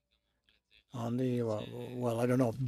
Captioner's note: speaking French